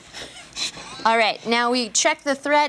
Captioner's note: laughter